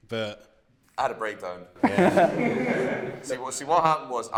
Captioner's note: laughter